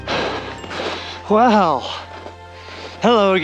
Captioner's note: panting